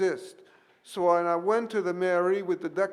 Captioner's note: speaks French